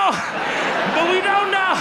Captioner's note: audience laughs